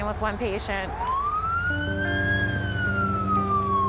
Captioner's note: siren wailing